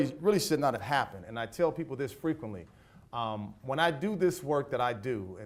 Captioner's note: none